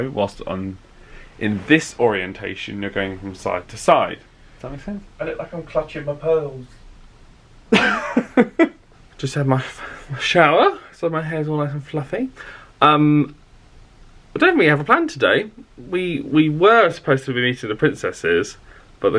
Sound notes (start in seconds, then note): 7.7 laughs